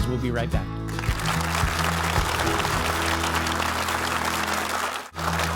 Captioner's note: audience applauding